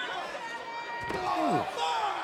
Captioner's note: crowd shouting